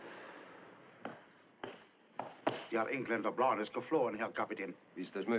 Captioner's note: German